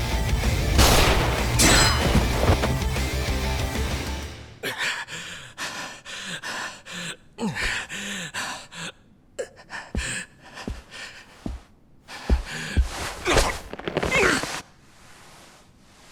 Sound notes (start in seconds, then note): 4.6 heavy breathing; 4.6 gasping